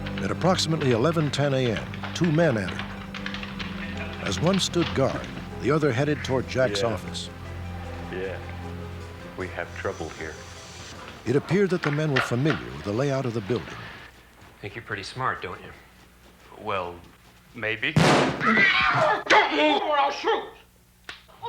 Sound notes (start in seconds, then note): 17.9 gun shot; 18.3 screaming